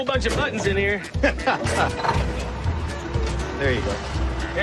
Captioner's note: laughs